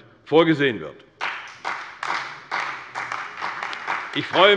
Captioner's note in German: Beifall bei der CDU und dem BÜNDNIS 90/DIE GRÜNEN